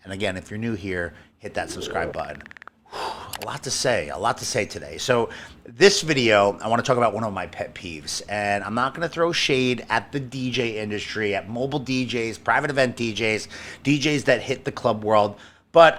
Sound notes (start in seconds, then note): 1.5 sighs